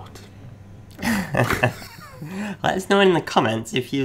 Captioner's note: laughing